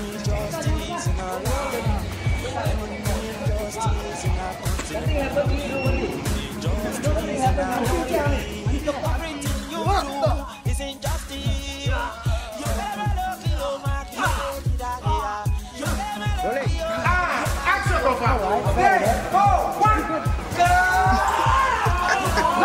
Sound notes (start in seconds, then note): 0.1 singing in foreign language; 5.2 all chattering; 9.8 men groaning; 19.1 all chattering